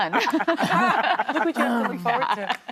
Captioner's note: laughter